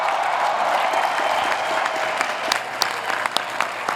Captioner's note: applause